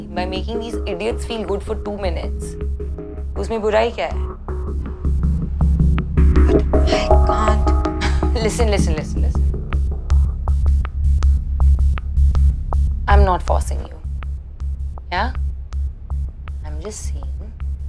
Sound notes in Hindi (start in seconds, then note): none